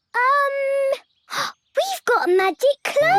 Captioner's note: gasps